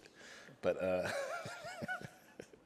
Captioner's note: laughs